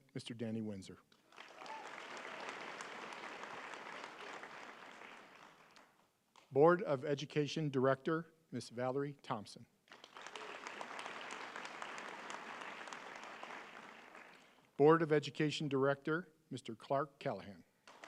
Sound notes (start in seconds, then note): 0.0 applause; 4.3 applause